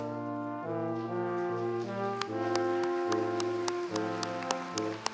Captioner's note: applause